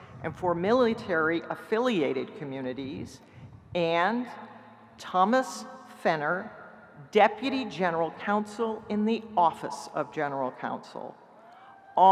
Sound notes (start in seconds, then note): none